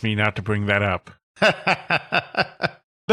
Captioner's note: laughs